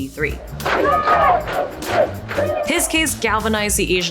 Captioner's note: crowd protesting